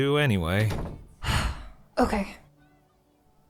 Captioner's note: sighs